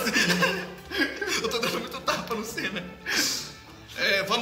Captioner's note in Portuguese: Risadas